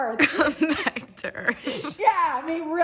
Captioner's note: laughs